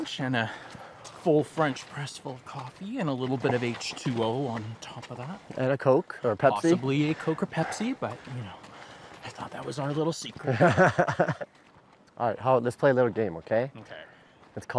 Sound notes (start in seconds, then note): 10.4 laughs